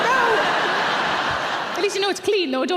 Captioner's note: audience laughing